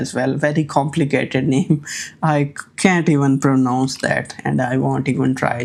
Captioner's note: chuckles